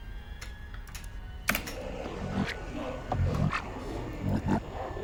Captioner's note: distorted growling